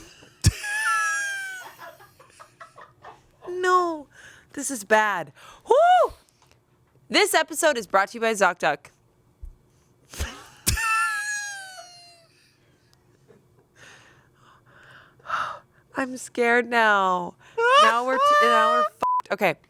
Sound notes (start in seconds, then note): 0.1 everyone laughs; 10.0 everyone laughs; 19.0 beep